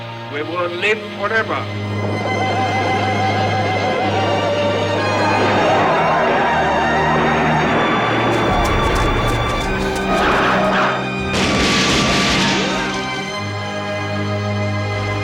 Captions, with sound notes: we will live forever. (battle cry) (gunfire)